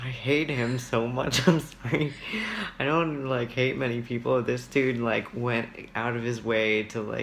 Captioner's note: laughs